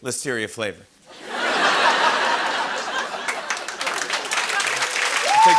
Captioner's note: laughter and applause